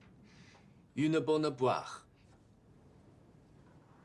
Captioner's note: French